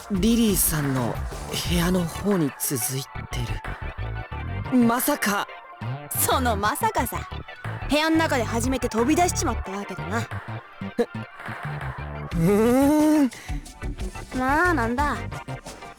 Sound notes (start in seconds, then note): 12.2 confused but interested hum